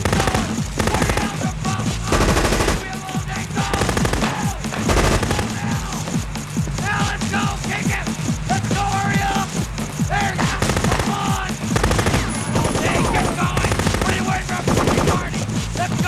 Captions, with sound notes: Keep going! What the hell's your problem, huh?! You think we have all day, soldier?! (machine guns firing) Go! Go now! Now! Let's go, take it! Let's go, hurry up! There you go, come on! (machine gun firing) You don't have all day! Get going! What are you waiting for, a fucking party?!